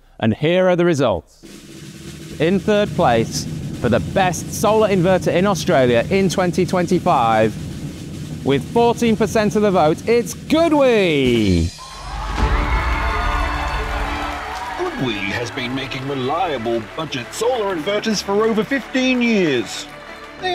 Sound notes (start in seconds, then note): 12.2 audience cheering; 12.2 bright music